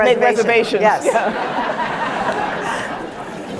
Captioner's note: laughter